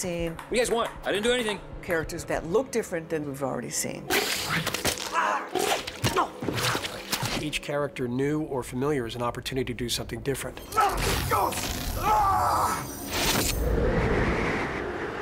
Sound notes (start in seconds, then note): 4.6 grunts; 10.7 yells